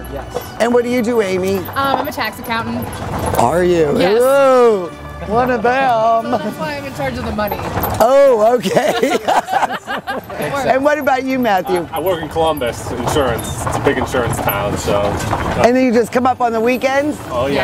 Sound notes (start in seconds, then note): 8.5 everyone laughs